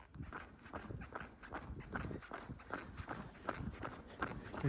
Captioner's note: running footsteps